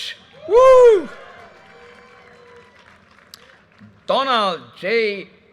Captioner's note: audience cheers and applause